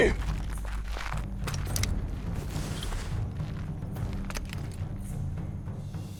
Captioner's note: footsteps